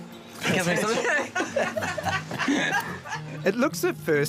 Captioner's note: all laughing